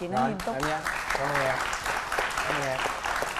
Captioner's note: applause